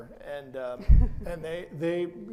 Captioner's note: laughs